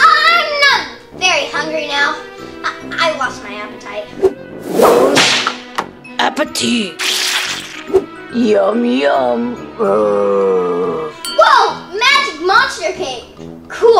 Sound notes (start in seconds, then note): 4.7 whip cracking; 7.0 splattering; 10.0 growling